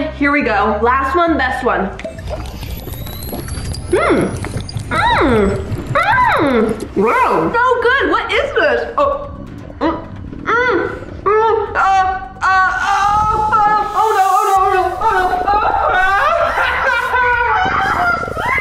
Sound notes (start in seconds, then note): 9.5 rumbling noises; 15.1 laughs